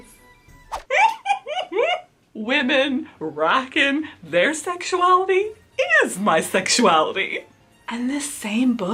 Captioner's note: giggle laughs